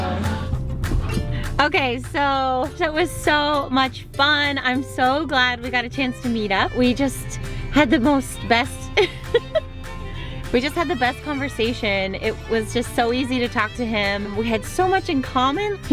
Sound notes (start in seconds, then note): 8.9 giggles